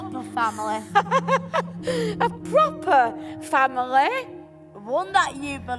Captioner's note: laughs